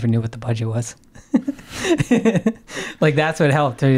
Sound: laughing

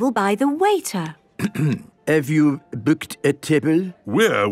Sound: clears throat

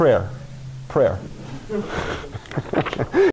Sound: laughter

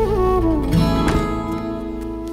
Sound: door closes

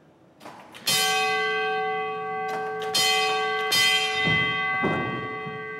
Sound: bell rings

